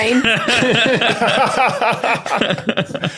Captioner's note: group laughing